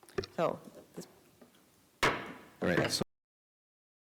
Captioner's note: gavel bangs